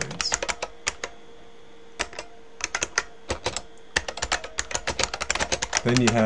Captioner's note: typing